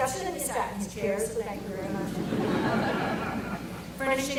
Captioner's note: audience laughter